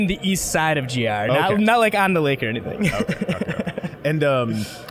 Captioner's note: laughing